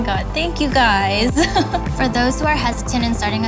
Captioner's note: laughing